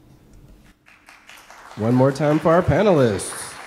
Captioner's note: audience applause